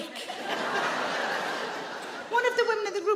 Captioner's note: audience laughing